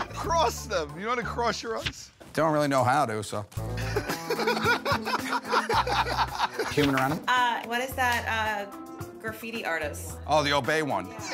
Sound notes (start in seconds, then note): 3.8 laughter